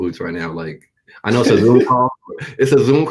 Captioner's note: laughing